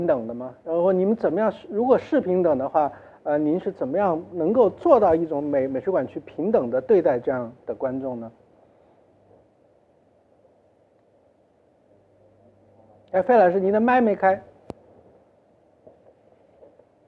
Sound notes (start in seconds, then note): 11.8 no sound